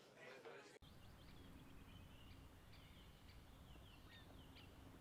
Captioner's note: birds chirping